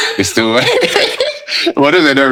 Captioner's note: laughing